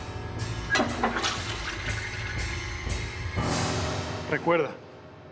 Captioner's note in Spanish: ruido del agua al descargar